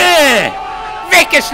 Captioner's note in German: Jubel